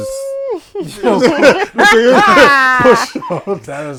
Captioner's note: laughter; screaming